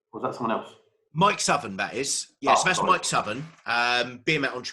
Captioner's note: murmuring